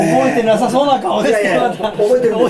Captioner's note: laughs